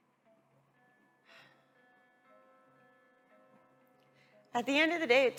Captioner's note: sighs